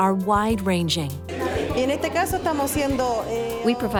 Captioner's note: speaking spanish